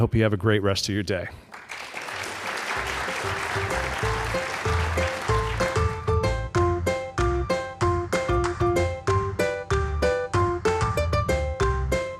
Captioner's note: applause